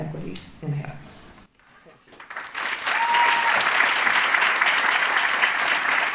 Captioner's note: audience cheering; audience clapping